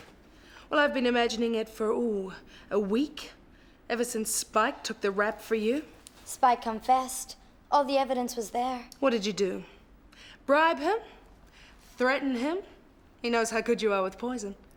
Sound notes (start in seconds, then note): none